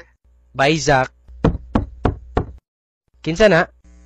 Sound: knock knock

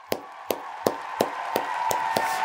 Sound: crowd cheering

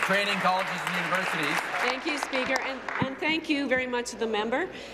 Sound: applause

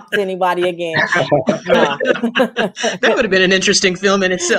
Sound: general laughs

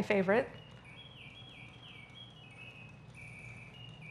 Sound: bird singing

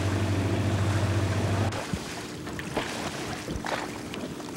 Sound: water splashing

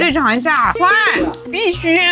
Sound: so excited she clapped

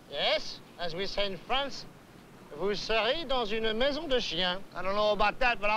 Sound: speaking french

